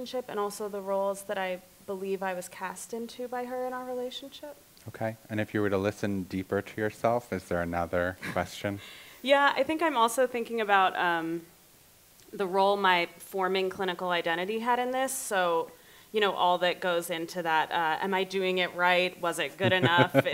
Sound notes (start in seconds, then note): 9.4 laughing; 19.6 laughs